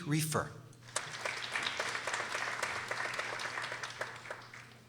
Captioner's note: people applauding